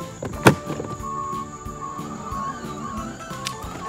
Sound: beeps

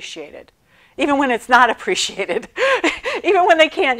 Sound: laughing

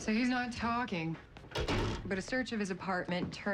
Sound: door closes

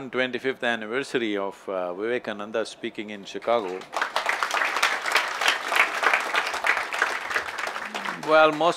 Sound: applause

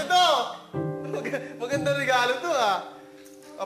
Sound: chuckles

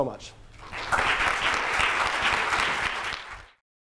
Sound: applause

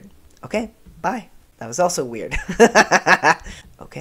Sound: laughter

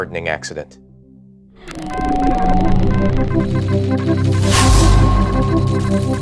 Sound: electronic sounds

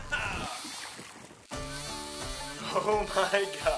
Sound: fishing pole reeling

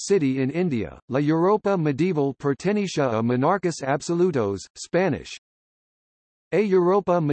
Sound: Spanish

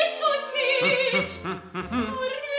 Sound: humming melodically

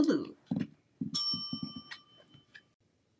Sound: bell dings

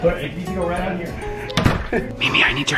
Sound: door noise

